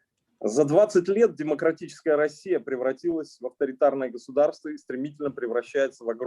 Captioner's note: speaking Russian language